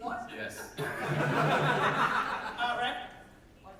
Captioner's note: audience laughter